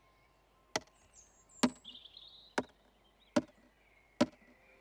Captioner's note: loud tapping